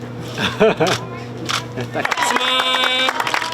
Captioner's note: chuckles